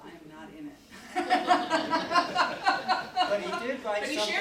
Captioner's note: audience laughing; laughs